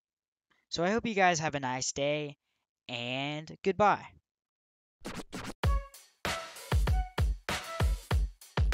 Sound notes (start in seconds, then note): 5.0 record scratches; 6.2 upbeat music playing